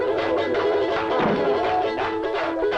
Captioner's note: door thudding; bright vocalizing